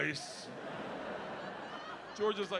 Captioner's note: audience laughing